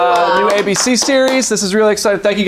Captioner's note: applauding